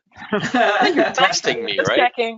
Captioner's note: laughs